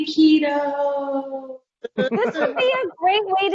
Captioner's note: laughing